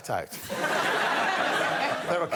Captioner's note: laughter